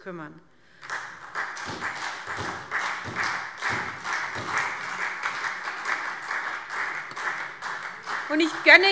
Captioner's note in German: Beifall SPD